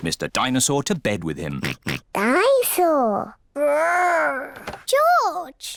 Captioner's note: oinks